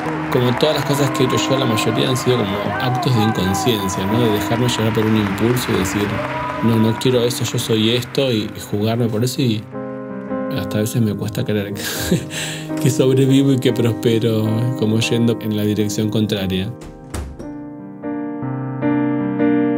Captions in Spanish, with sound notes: Como todas las cosas que he hecho yo, la mayoría han sido actos de inconsciencia, de dejarme llevar por impulso y decir: “No quiero eso, yo soy esto”, y jugarme por eso. Hasta a veces me cuesta creer, que sobrevivo y próspero como yendo en la dirección contraria. [GOLPE PUERTA] [MÚSICA DE PIANO]